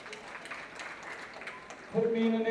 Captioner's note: applause